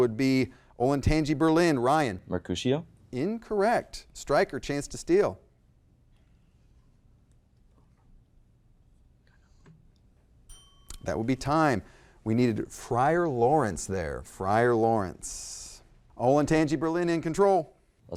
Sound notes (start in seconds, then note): 5.6 faintly speaking; 10.4 bell ringing